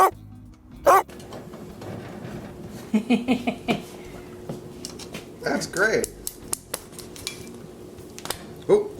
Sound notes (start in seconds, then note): 3.4 laughing